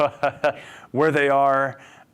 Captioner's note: laughs